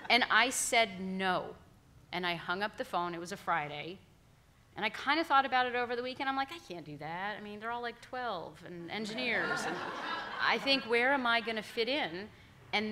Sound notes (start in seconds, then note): 9.1 all laughing